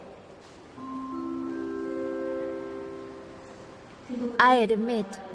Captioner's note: speaker chiming